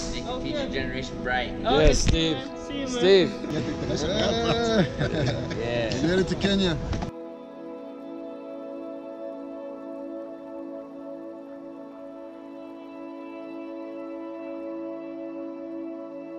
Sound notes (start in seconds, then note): 3.3 laughs; 6.8 soft music